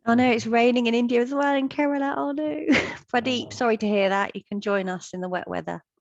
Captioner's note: chuckles